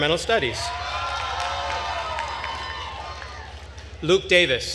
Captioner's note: attendees cheering and applauding